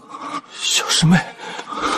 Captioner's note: whispering